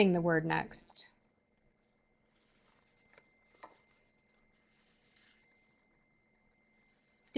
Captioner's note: no sound - waiting for questions